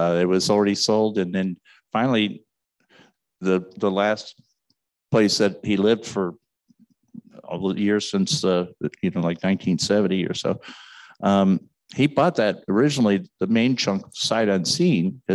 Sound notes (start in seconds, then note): none